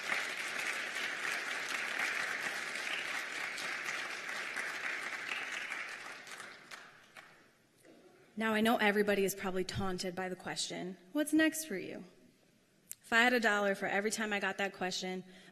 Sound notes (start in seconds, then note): 4.3 applause